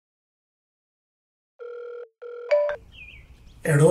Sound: phone rings

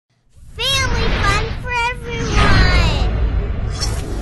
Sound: voiceover

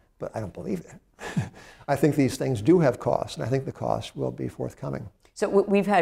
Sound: laughs

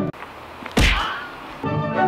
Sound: punch/smack sound affect

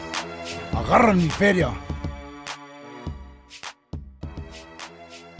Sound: foreign language

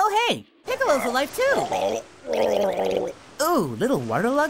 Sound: gurgling

